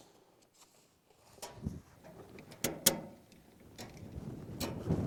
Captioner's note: metal clanking